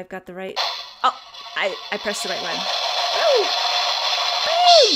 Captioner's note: cymbal sound affect